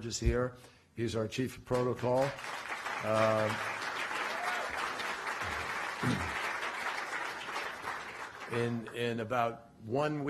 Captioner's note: applause